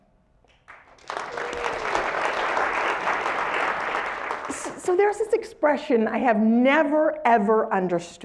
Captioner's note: applause